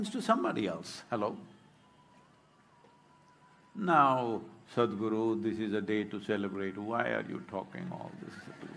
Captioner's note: laughter/Applause